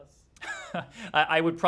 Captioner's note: laughter